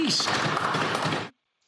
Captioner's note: some Applause